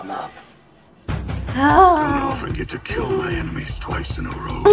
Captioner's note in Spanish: Grititos de emoción